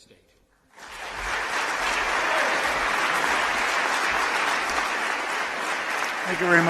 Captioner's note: applause